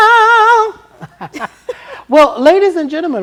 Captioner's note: singing; laughter